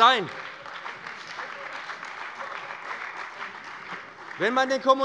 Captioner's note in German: Beifall bei dem BÜNDNIS 90/DIE GRÜNEN und der CDU